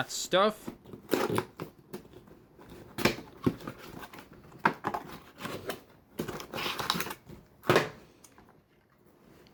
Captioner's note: box noises